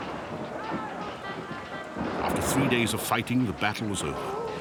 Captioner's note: lightning striking